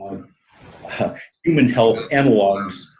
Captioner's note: laughs